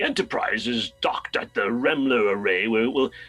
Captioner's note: imitating the voice